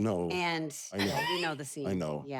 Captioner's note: laugh